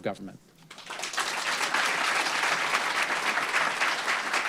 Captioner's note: applause